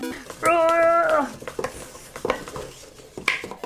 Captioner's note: frustrated roar